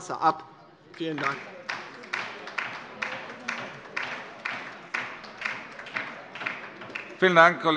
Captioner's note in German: Beifall bei der LINKEN